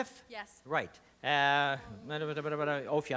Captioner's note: mumbles